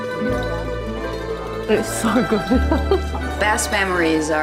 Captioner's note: laughing